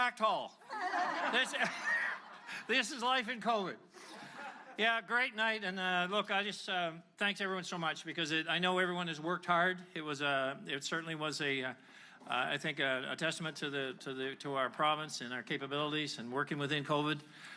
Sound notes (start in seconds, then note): 4.0 laughter